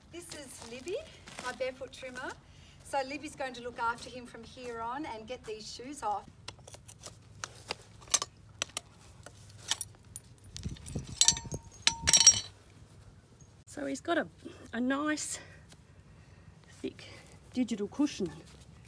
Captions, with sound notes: This is Libby, my barefoot trimmer. So, Libby's going to look after him from here on, and get these shoes off. (metal clanking) - So, he's got a nice, thick, digital cushion,